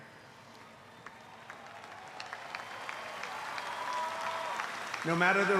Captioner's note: applause